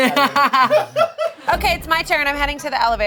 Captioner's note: laughing